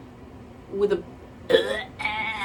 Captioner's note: barfing noise